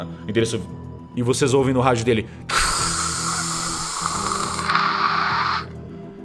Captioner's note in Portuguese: chiado